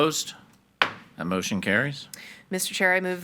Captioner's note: hammer slamming